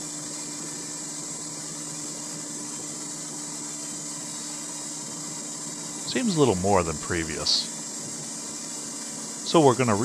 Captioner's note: engine & wheel spinning noise